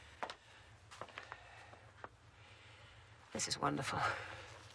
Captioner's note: sighs